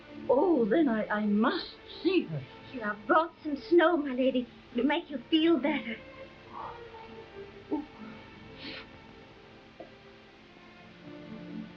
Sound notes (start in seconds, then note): 6.6 Marquesa sighing; 8.9 soft uneasy music